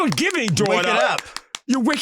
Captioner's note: clapping